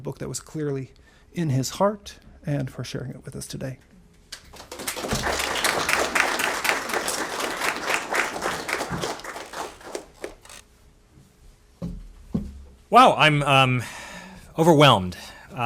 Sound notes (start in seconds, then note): 4.5 audience applauding